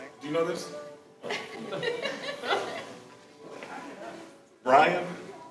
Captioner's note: all laughing